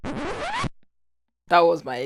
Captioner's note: record Scratch